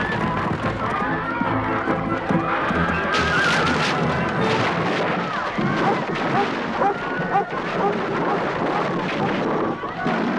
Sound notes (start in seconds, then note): 3.4 beams snapping; 7.7 Beast barking